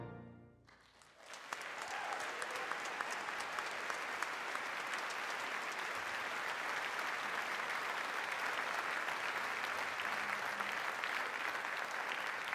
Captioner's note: applause